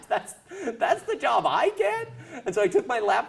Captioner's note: laugh; laugh